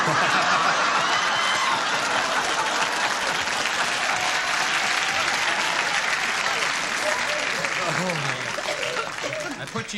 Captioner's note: laughter